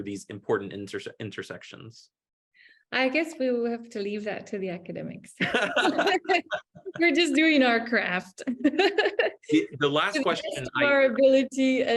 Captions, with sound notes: these important intersections. - I guess we'll have to leave that to the academics. We're just doing our craft. (both laughing) - The last question. - To the best of our ability